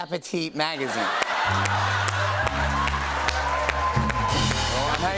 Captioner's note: laughter